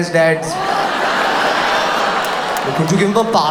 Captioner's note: audience laughs